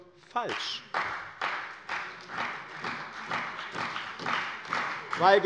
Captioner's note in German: Beifall bei dem BÜNDNIS 90/DIE GRÜNEN und der CDU